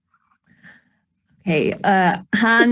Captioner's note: speaking Native language